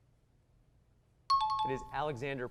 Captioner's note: timer